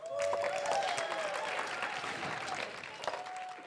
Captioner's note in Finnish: Hurraahuutoja ja aplodeja